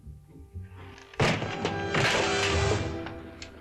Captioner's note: bang